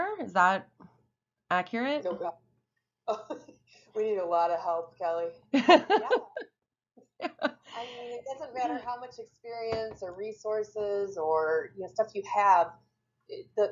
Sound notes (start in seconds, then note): 3.0 laughs; 5.6 laughs